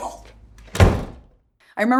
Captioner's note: door slams